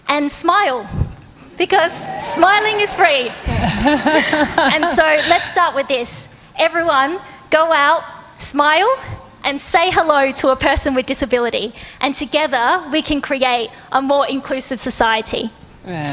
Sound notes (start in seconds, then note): 6.1 laughter